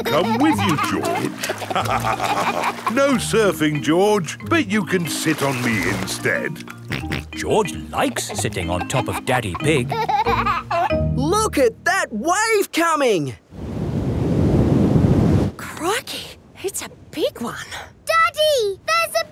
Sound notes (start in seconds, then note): 2.0 both laugh; 7.0 snorts; 10.3 giggling